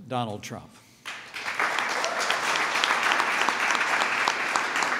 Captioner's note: applause